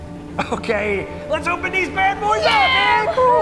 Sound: laughing

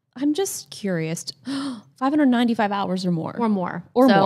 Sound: gasps

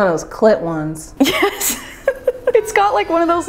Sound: laughing

